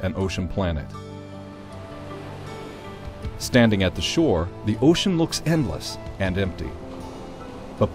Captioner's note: waves crash